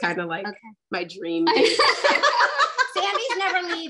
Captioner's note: laughing